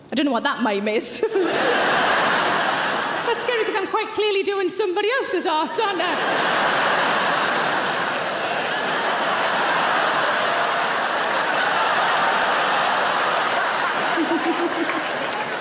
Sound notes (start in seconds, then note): 1.2 audience laughs; 6.7 audience laughs